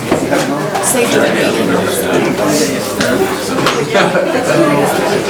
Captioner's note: loud murmuring